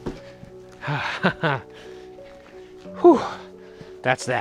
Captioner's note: laughing